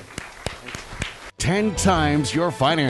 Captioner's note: clapping